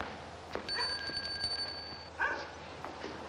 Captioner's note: doorbell ringing